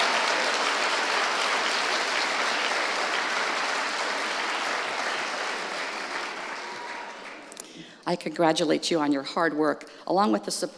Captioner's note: cheers and applause